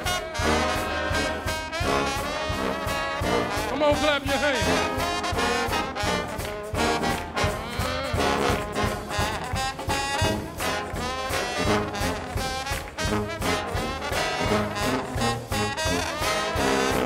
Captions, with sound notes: Come on, clap your hands. (audience applauds) (upbeat brass band music)